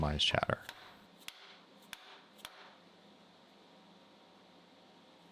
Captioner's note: hammer pounding